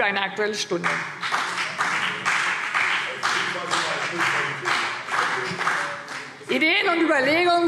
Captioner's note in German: Beifall BÜNDNIS 90/DIE GRÜNEN und CDU